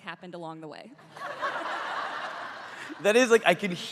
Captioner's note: crowd laughing